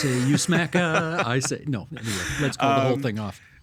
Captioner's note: laughing